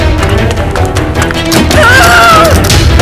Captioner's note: Amma screaming